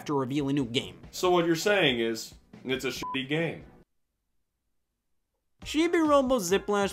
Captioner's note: beeps